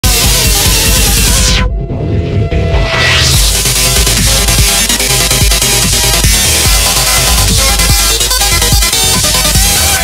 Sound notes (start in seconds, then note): 0.0 sonic noises